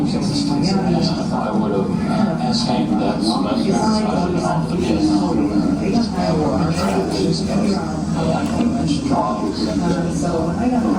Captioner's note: female speaker in English